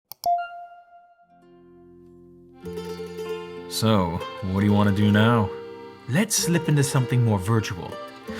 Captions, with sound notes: (mouse click, computer chime) (upbeat music) - So what do you wanna do now? - Let's slip into something more virtual.